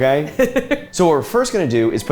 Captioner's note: laughs